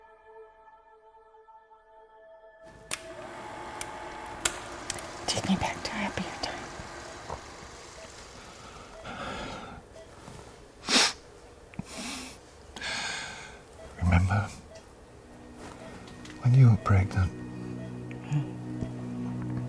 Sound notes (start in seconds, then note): 2.8 projector rattles; 9.8 Jim sighs; 10.8 Jim sniffs